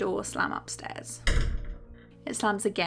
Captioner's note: slam